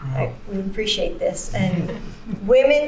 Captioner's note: laughter